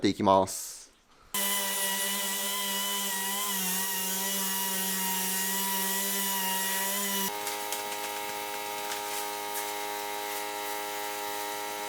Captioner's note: working sound